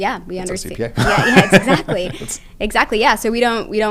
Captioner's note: laugh